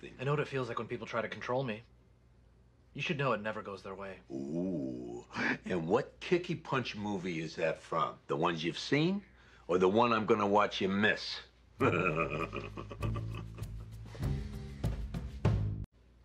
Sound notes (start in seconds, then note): 11.8 laughs